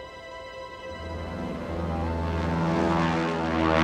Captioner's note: plane ascending